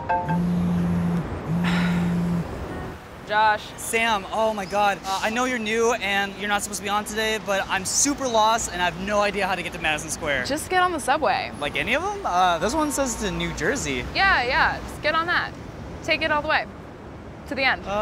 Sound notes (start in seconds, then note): 0.2 phone buzzing; 1.4 sighs